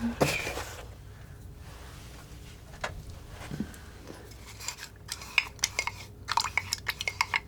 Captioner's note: scratching